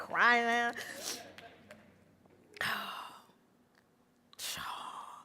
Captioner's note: breathing heavily